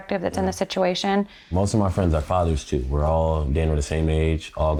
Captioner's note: none